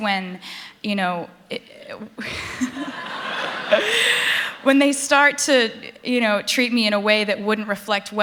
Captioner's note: laughter